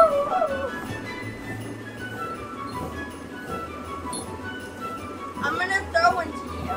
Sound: bounce house thudding

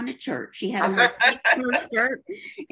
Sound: laughs

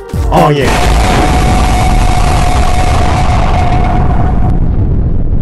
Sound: deafening nuclear explosion; inhuman screams of unknowable agony

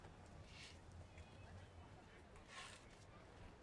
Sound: none

